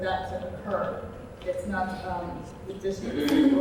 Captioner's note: person clears throat